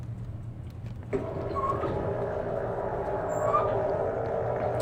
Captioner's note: board lever whirring